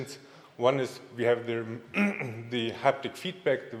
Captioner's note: clears throat